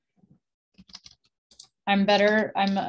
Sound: keyboard clicking

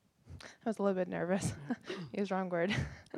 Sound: laughing

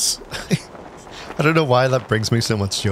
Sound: laughs

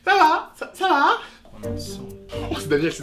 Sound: whispering

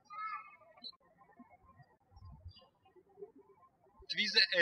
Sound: birds chirping

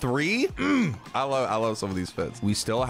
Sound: curt grunts

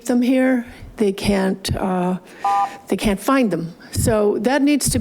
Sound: buzzer chiming

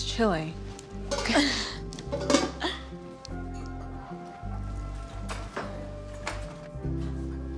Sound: both laugh

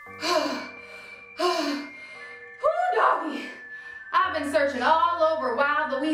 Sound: gasping

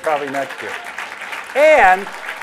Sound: applause

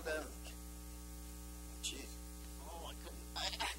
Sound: impersonating

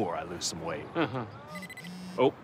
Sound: laughs; watch rings, vibrates

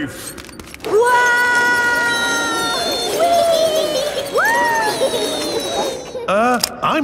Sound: all yelling

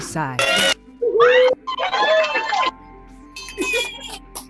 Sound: cheering

